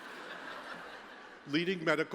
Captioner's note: laughter